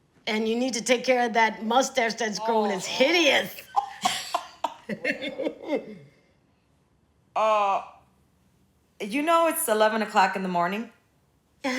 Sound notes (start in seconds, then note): 3.6 chuckling